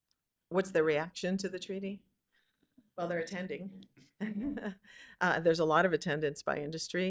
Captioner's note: laughter